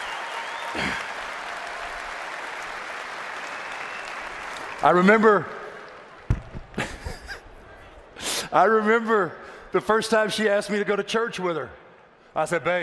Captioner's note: applause